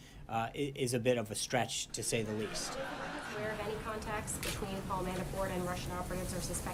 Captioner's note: laugh track